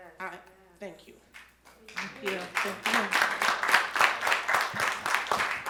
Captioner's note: audience applaud